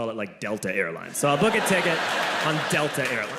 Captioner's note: audience laughing